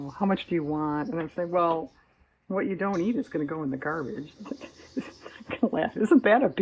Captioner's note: laughs